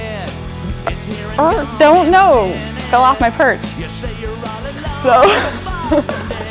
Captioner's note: imitating parrot talking